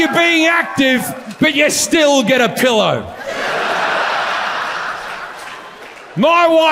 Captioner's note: audience laughs